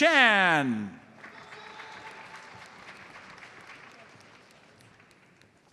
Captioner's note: audience applauds